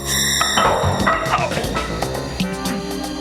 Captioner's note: yells